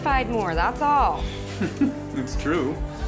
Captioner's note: laughs